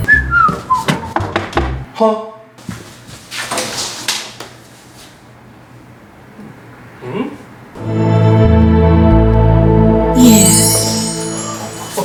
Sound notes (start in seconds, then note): 0.0 whistling; 1.1 knocking on door